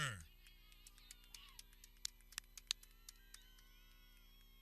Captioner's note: people clapping